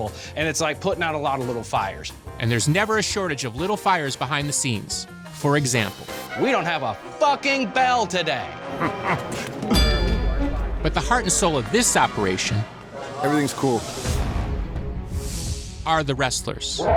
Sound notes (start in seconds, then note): 8.6 chuckles; 9.6 thuds, dings